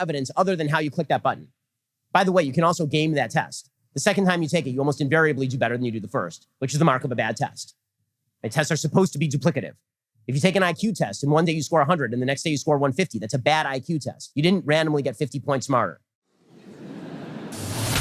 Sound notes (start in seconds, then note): 14.7 audience laughter